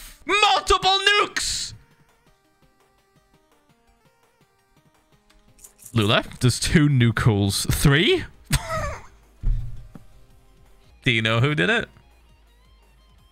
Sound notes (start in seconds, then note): 3.3 stunned silence; 8.5 laughs